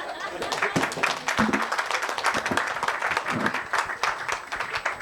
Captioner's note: attendees applauding